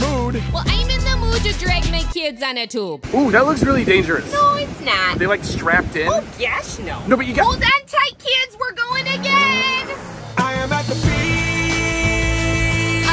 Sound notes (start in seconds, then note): 8.6 engine revving